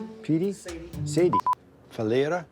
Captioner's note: beeping camera